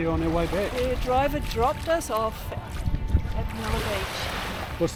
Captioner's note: waves lapping